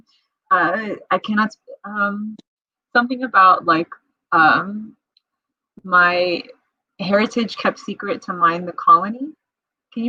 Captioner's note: laughs